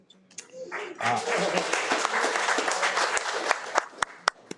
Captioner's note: audience applauding